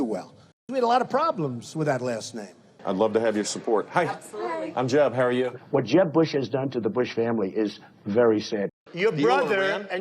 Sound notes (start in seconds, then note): none